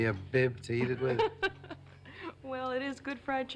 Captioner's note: waitress laughs